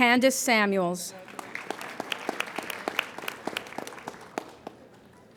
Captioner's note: applauding